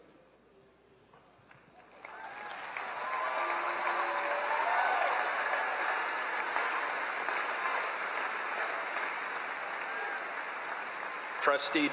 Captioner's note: applause